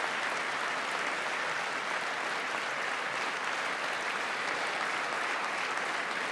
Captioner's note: applause